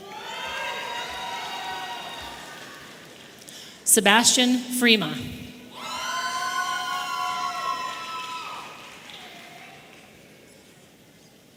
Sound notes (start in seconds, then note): 0.0 audience cheering; 5.7 audience cheering